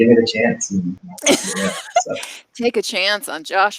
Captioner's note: laughing